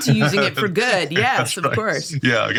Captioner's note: laughing